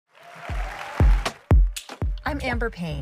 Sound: audience applauding and cheering

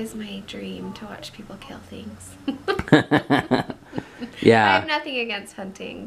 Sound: laughs

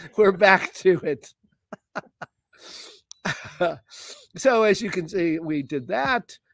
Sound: laughter

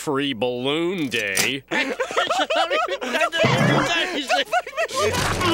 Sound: laughing

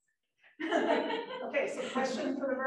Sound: students laughing

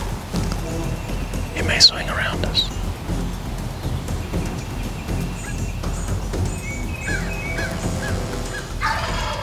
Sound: whispering

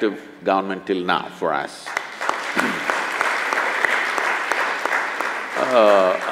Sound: applause

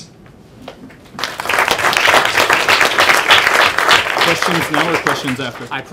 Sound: applause

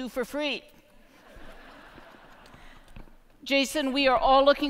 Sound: laughter

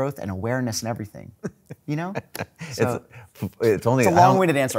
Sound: laughing

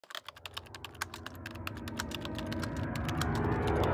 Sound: typing

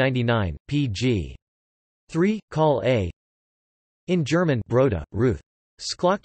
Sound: in German

